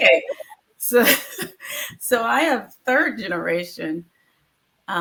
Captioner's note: chuckles